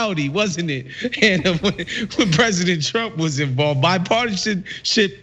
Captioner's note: laugh